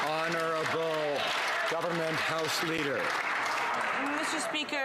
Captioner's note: some Applause